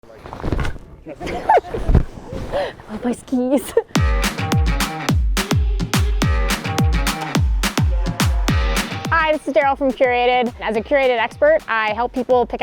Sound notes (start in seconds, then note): 1.2 laughs; 4.5 upbeat music